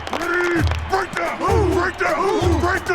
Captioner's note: team whoops